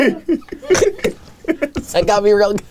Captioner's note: snorts; chuckling